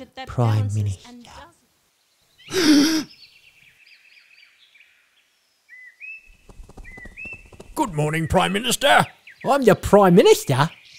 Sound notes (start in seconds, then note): 1.8 birds chirping; 2.5 gasps